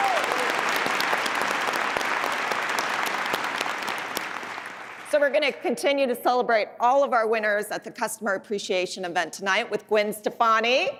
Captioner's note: applause